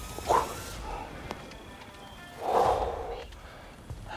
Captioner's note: bow cracking; exhale sharply